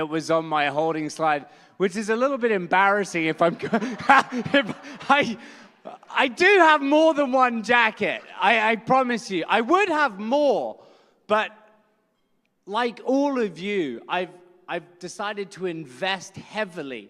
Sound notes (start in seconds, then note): 3.5 laughs